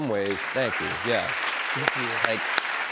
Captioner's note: cheers and applause